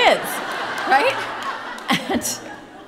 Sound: audience laughing; laughing

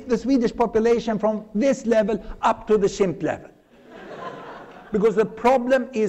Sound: laughter

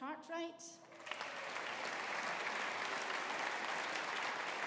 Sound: audience applauding

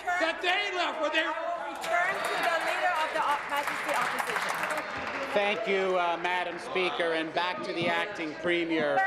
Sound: applause

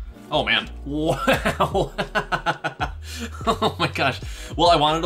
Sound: laughing

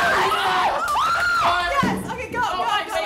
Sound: shrieking

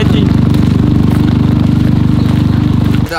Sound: trudging

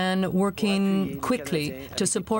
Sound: speaking French

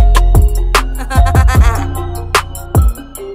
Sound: laugh

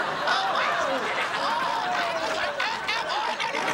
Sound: screaming

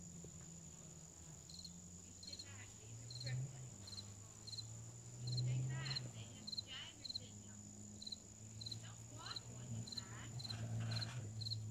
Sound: cricket chirping and voices in the background

